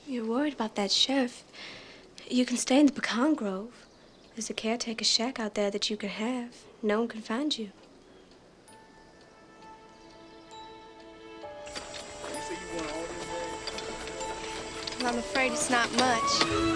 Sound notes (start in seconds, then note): 8.7 bright music; 11.6 workers chattering